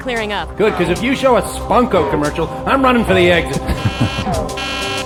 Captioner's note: crow